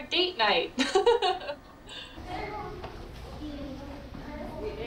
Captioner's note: children chattering